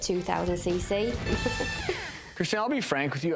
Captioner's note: giggling